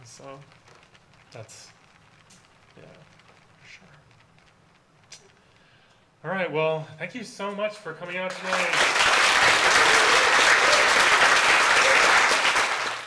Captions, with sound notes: So that's, yeah. All right. Well thank you so much for coming out tonight. [AUDIENCE APPLAUSE]